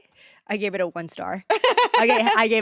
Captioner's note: laughs